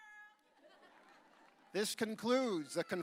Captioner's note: audience laughing